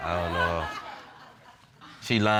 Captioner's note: audience laughing